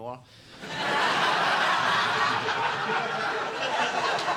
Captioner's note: audience laughing